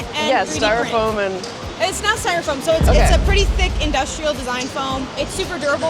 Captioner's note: boom